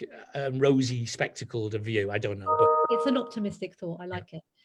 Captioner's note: notification ping